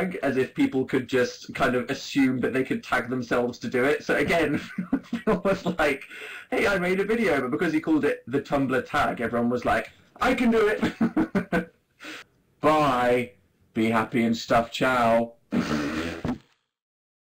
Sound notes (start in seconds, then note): 4.2 laughs; 10.7 laughs; 15.5 fart noise